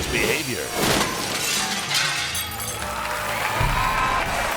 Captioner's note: glass shattering; audience applauding and cheering